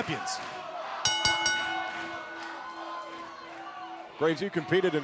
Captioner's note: bell ringing